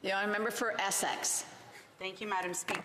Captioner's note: none